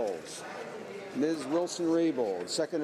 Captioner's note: speaking French